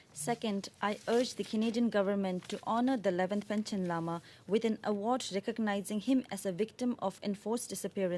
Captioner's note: speaking Alternate Language